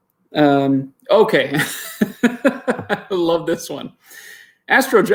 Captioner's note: laughs